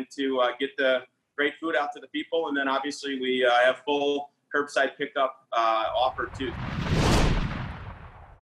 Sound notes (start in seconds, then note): 5.8 whoosh